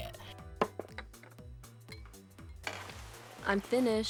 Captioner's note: clinking